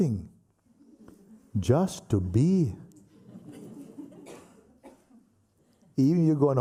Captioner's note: laughter